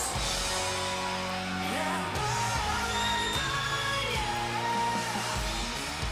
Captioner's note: cheers and applause